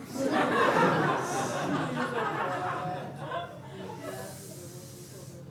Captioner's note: laughter